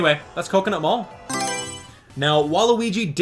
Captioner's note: Mario Selection Sound